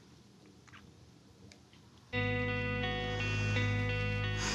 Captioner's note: sighs